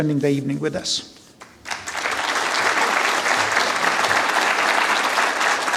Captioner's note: applause